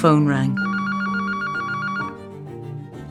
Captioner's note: ring tone